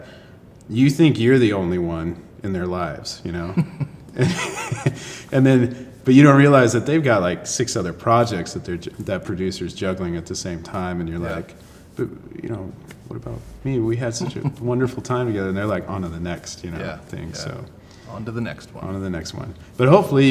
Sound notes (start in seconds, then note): 3.4 both laugh